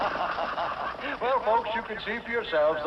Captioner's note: laughs